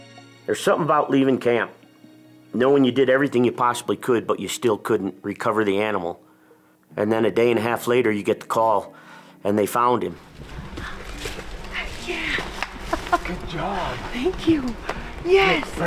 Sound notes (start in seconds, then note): 9.3 soft upbeat music; 12.6 chuckles